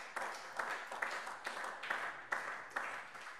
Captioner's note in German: Beifall SPD